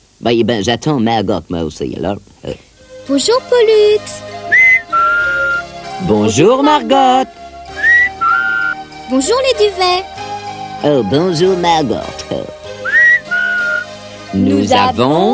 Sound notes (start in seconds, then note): 8.1 tweeting; 12.8 ils sifflent